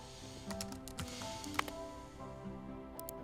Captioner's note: sighs